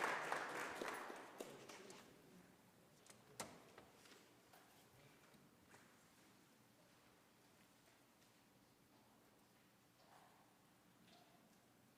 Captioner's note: applause